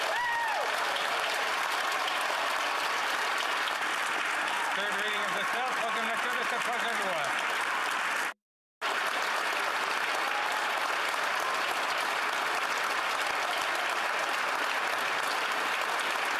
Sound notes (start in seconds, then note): 4.5 some Applause